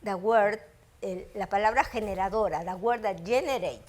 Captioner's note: speaking foreign language